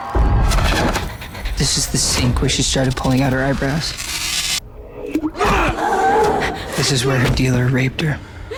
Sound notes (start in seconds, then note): 5.0 man yelling, girl gasping; 8.3 girl whimpering, crying